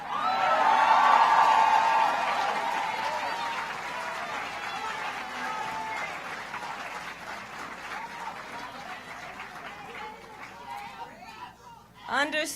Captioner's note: applause